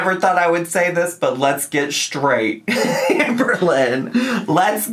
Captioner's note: laughs